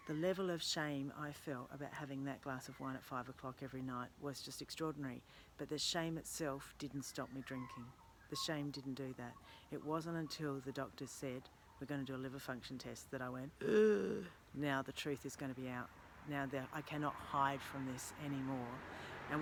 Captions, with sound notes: The level of shame I felt about having that glass of wine at five o'clock every night was just extraordinary. But the shame itself didn't stop me drinking. The shame didn't do that. It wasn't until the doctor said we're going to do a liver function test that I went, (gulps). Now the truth is going to be out. Now that I cannot hide from this anymore.